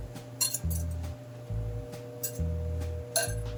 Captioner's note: whisk clinking